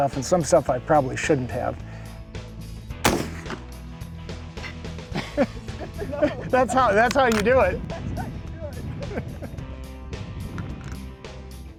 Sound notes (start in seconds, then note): 3.0 gun fires; 5.0 laugh